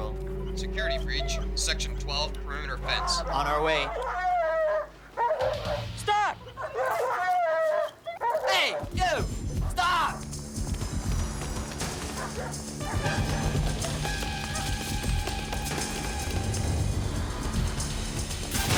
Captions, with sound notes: Security breach, section 12, perimeter fence. ( dog barking excitedly ) On our way. Stop! Hey! You! Stop!